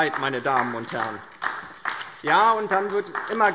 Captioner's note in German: Beifall DIE LINKE